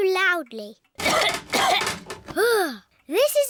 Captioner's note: coughs